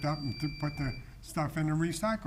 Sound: bell chiming

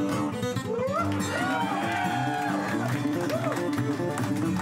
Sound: cheers and applause

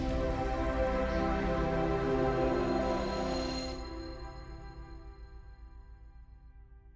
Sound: futuristic sound effects

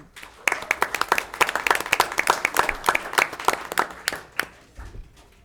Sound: applause

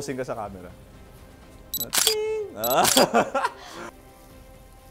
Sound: laughs

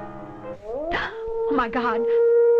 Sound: dog howls

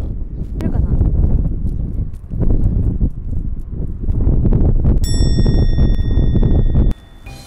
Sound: only the wind noise is audible

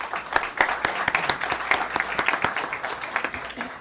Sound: applause

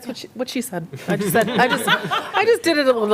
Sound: laughter

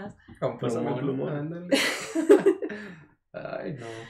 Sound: laughter

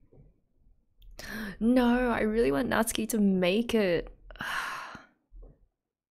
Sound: sighs

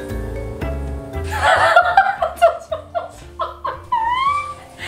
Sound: laughs

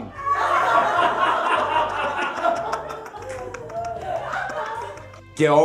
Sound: laughs

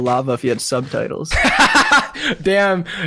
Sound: laughs

